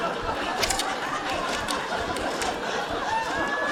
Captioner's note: laughter continues